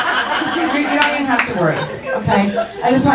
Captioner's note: laughing